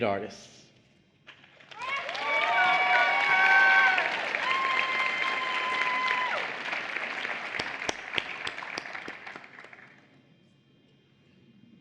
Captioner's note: applause